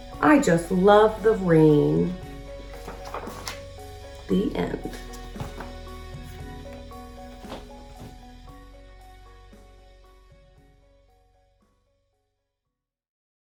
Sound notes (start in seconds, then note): 2.5 pages shuffles; 2.7 uplifting instrumental music